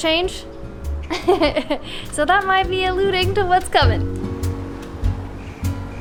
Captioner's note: laughs